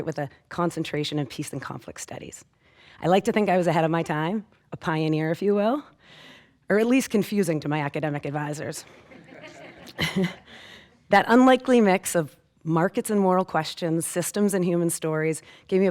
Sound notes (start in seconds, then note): 9.0 audience laughing